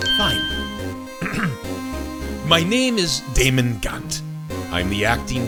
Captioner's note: ahem